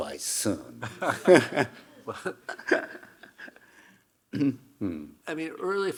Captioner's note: Hiroshi chuckling; chuckling